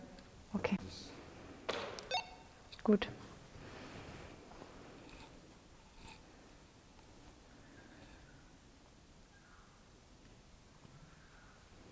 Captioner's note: silence in the background